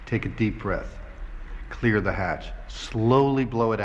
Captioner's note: none